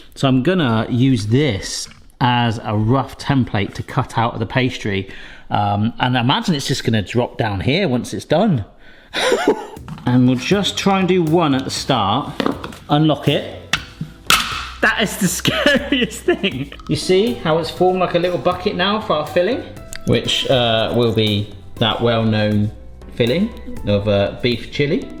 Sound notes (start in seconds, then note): 9.2 laughs; 14.3 mould springs sharply